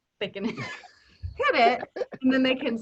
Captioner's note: laughing